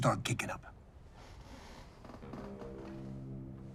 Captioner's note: chair creaking; low suspenseful music